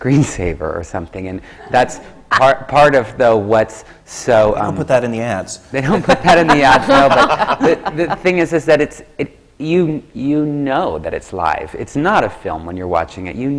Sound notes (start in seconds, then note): 1.5 laughs; 5.8 laughter from the panel